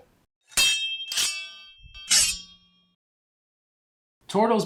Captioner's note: swords clashing